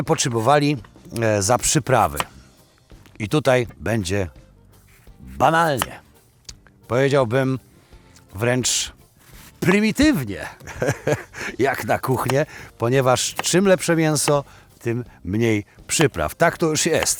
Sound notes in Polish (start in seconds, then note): 10.6 śmiech